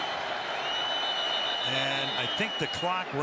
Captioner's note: whistle